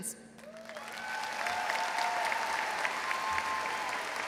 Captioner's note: crowd applauds